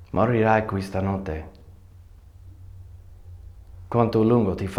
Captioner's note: man speaking foreign language